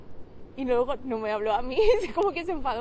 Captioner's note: laughs